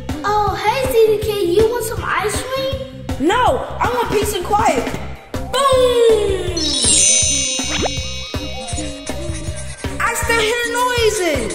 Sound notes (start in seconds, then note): 6.5 high-pitched chimes; 8.8 crayon scratching